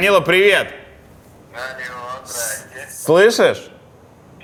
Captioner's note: Poperechniy, on phone